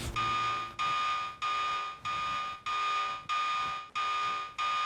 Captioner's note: siren beeping